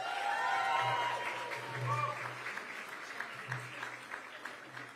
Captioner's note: applause